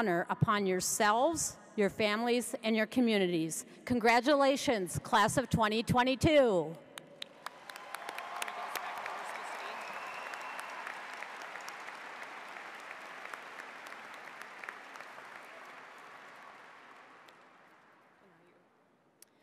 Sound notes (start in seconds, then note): 7.2 audience applauds; 7.4 cheers